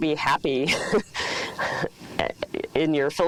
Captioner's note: laughs